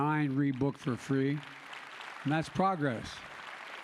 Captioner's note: applause